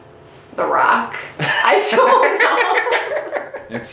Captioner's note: laughing; laughing off-camera